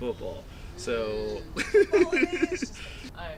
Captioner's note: laughing